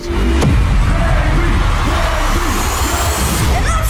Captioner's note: crowd cheering